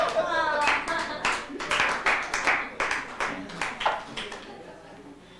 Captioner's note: laughter; applause